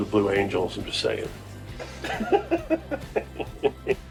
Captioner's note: laughing